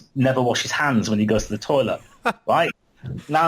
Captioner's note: laughs